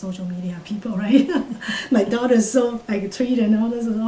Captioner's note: laughs